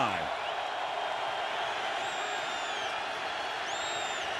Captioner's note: crowd cheering